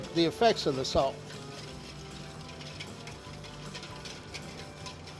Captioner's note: metal whisk whirring; metal whisk tapping